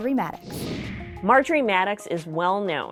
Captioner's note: computer whooshing